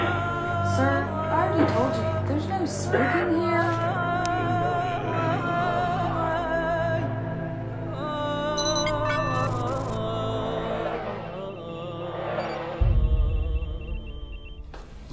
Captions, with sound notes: Sir, you can't smoke in here. (groan)